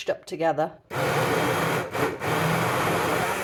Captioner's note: blender